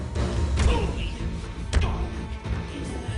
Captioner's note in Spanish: Golpes; Quejido